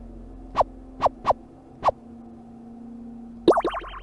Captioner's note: menu sound effects